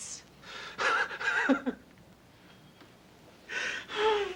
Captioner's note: Casey laughs